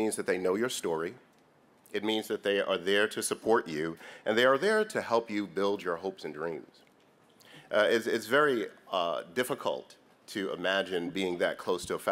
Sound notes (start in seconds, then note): none